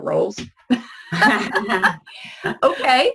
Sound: laughing

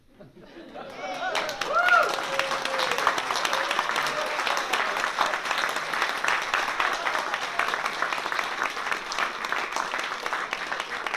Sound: applause and cheers

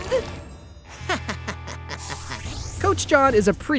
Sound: laughing

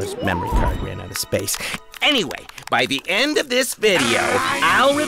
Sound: applause

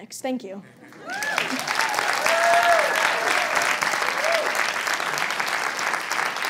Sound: applause

